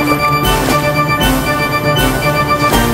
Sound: bubbling sound; water splash sound

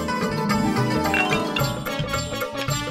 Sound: cups clicking

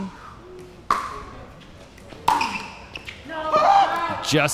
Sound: ball bouncing

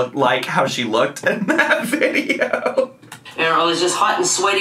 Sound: laughs

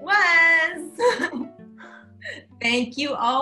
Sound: laughing

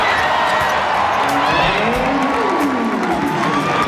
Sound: cheers and applause

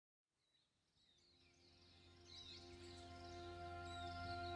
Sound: birds chirping

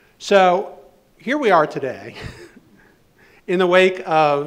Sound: laughing

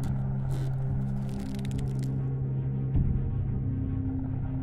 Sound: clamp creaks

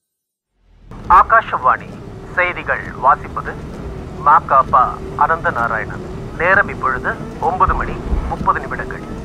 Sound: radio news

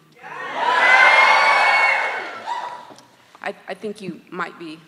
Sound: students cheering

